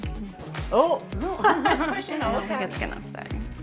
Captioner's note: laughs